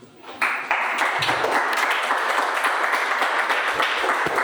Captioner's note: audience applauding